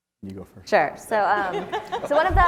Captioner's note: laugh